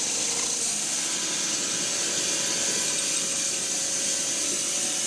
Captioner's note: saw buzzing continues